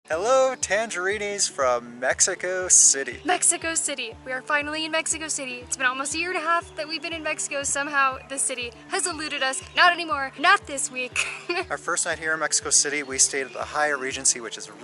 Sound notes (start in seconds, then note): 11.1 giggles